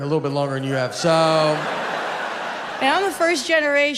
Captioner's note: audience laughs